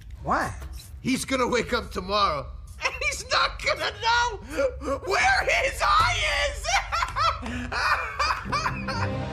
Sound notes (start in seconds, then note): 3.2 chuckling; 6.3 rocket laughing